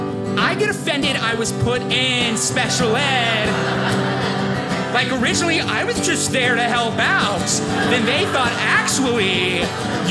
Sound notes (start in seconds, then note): 3.5 audience laughing